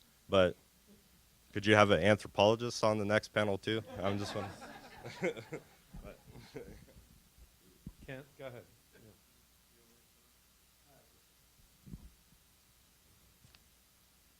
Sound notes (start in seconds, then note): 6.3 laughing; 10.1 silence